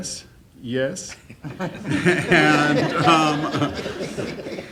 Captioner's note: laughing